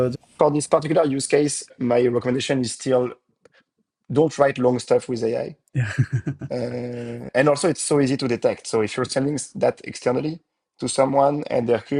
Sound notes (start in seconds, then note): 5.7 laughs